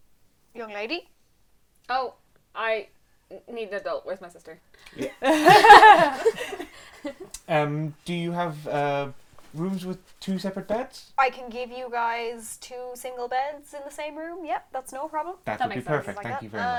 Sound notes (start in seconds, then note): 5.0 laughter